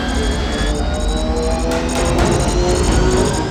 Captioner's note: engine roar